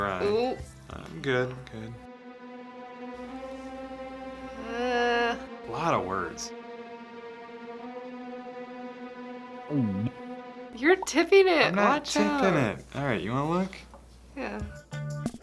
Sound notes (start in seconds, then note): 2.6 ominous music; 9.7 gulp